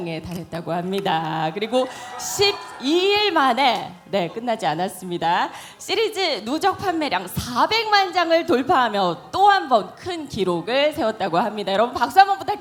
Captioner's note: laughs